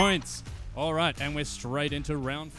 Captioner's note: dinging